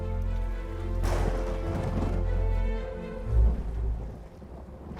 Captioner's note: dramatic music; thunder crashing